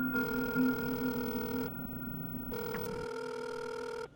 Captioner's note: phone ringing